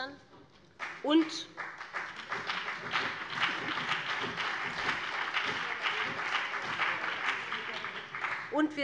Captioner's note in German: Beifall BÜNDNIS 90/DIE GRÜNEN und vereinzelt CDU